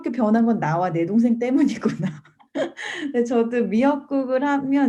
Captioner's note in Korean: 웃음